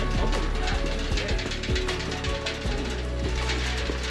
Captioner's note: metal clanking